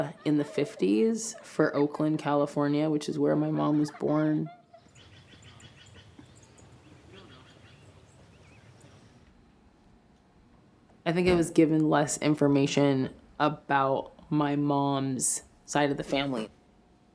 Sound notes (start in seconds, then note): 0.0 children laugh; 5.2 birds cry out